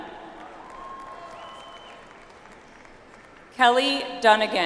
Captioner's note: audience applauds